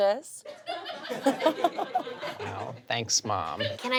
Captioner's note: audience laughs